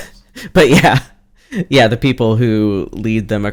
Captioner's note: laughs